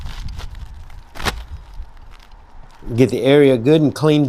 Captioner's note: shingles slapping onto roof